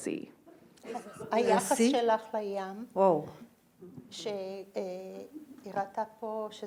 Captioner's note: speaking in foreign language